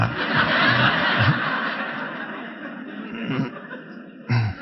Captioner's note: audience laughing